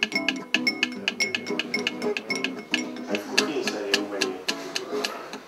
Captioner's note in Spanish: en Eslovaco